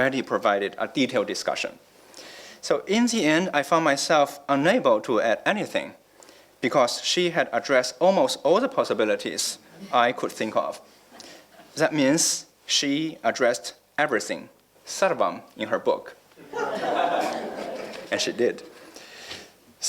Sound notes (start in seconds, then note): 14.4 non-english